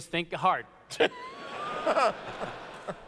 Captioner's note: laughter